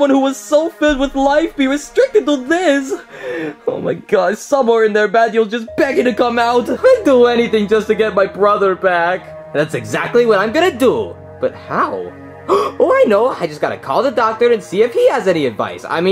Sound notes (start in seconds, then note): 12.4 Luigi gasping